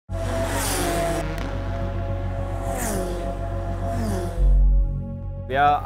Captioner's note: engine sounds